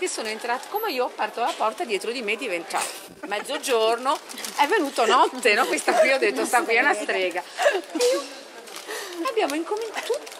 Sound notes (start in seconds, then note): 8.9 laughing